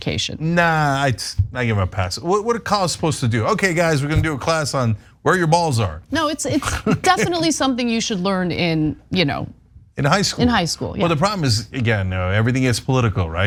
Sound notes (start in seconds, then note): 6.4 laugh